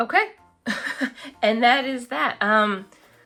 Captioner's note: laughs